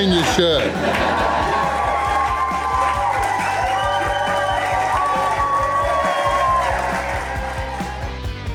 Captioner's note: crowd clapping and cheering